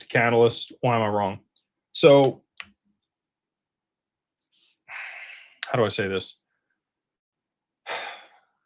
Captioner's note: sighs